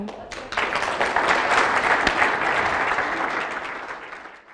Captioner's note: applause